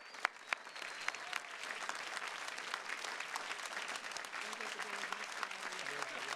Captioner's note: attendees continue cheering and clapping